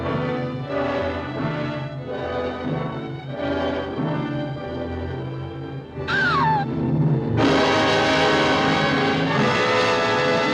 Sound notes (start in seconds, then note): 6.0 ominous music; 6.1 gasping